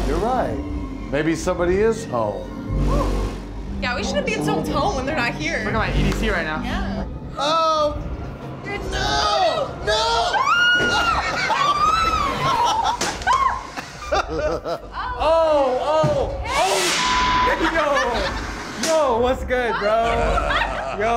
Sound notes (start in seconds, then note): 9.9 screams; 10.8 laughs; 17.5 laughs